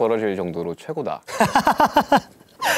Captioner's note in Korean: 하하하하